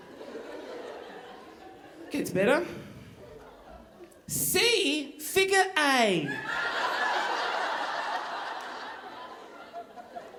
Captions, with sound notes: Gets better. See figure-A. (audience laughing)